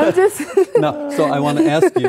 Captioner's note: laughing